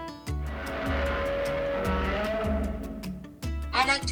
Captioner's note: Godzilla roaring